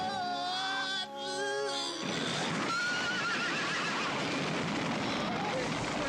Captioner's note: Malachi screaming; undead roaring; horses neighing